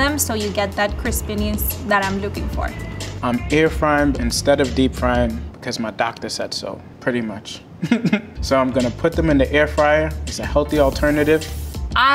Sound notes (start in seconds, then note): 7.8 laughs